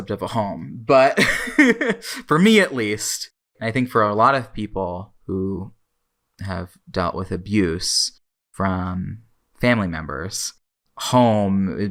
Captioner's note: laughs